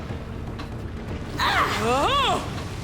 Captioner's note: grunting